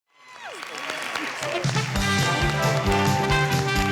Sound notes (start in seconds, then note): 0.2 audience clapping; 1.5 upbeat music